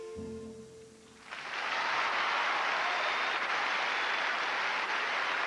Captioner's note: applause